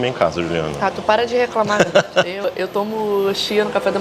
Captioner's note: laughs